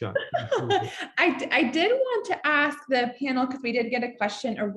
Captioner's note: laughs